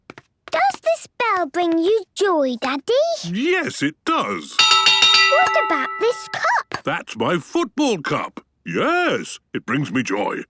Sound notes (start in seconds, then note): 4.6 clanging